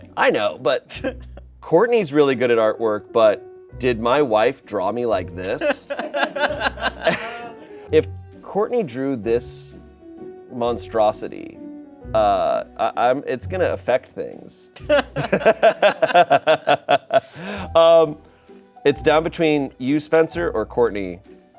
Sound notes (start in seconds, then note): 6.3 crew laughing; 14.8 Shayne laughs